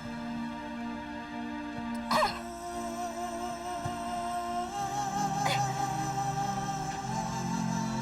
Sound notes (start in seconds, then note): 2.2 whimpering